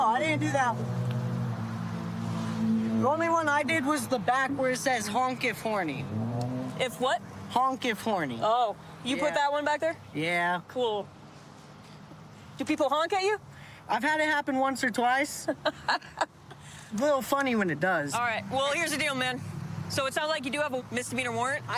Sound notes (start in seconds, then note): 16.3 laughs